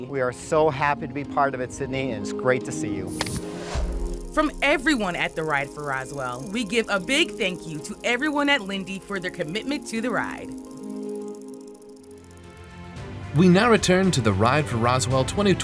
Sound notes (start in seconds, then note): 3.1 graphics whooshing; 4.3 bicycles riding; 12.6 bright motivational music